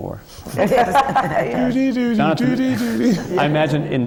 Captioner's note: laughter; does the twilight zone theme